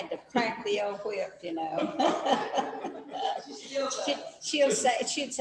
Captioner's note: laughs